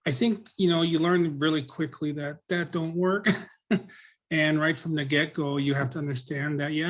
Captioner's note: laughs